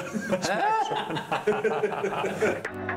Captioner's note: the guests laugh